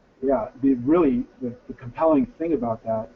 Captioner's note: voiceover